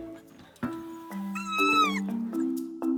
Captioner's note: puppy whining